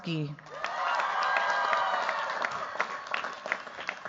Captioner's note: cheers, applause